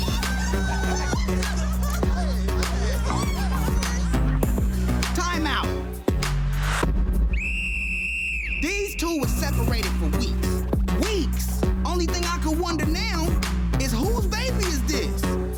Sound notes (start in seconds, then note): 7.2 whistle blowing